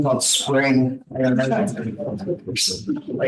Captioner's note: students murmuring